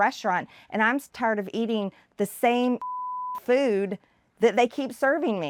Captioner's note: beep